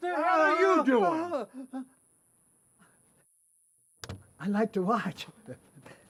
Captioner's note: man yelling